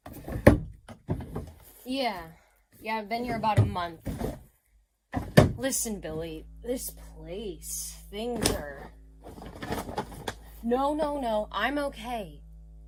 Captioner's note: faint, low hum starts